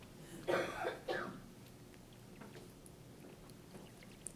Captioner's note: coughing